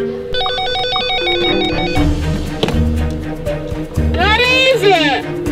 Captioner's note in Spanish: suena el teléfono